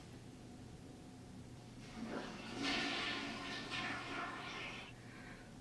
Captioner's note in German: das Geräusch einer Toilettenspülung